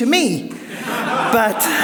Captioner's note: audience laughs